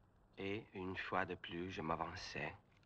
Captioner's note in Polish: mówi po francusku